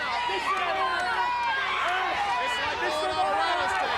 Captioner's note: crowd cheering